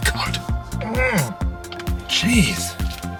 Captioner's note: grunting